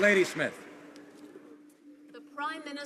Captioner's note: some Applause